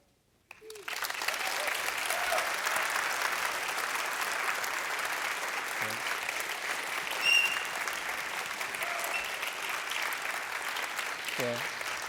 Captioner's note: applause